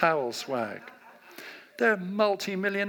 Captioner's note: audience laughs